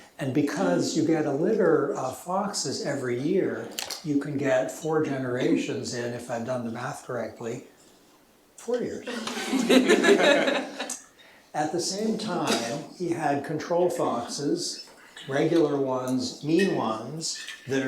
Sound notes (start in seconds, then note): 9.0 laughter